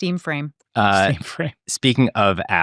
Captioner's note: chuckles